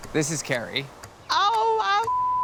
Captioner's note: beep